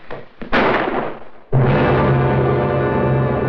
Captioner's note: gunshot